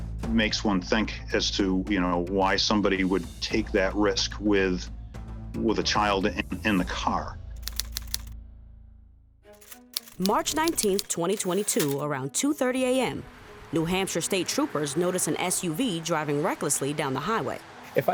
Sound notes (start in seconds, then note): 0.0 dramatic music; 7.6 typewriter typing